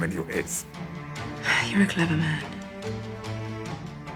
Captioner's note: sighs